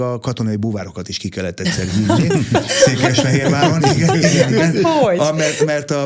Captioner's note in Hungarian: nevetés